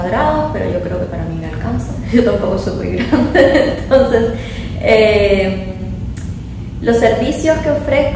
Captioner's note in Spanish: risas